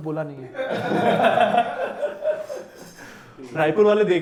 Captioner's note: laughs